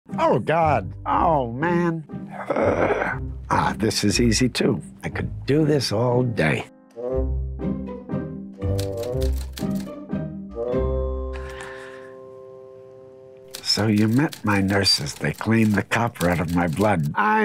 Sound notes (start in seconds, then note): 2.3 groaning; 7.0 bright music; 8.7 keyboard clicking